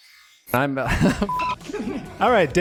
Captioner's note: laughs